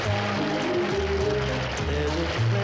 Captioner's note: audience applauds